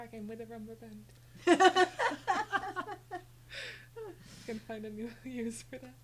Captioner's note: laughing